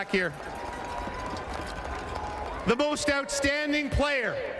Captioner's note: cheering and Applause